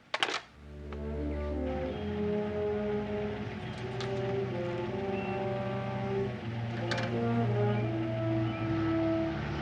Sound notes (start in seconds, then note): 1.5 engine rumbling; 4.5 birds chirping